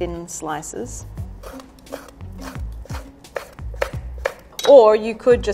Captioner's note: knife grinding on wooden board